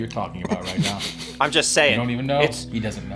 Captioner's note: snickers